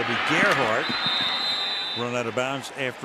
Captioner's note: whistle blows